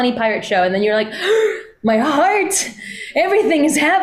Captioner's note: gasps